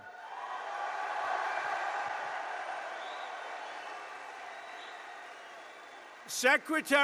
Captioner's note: applause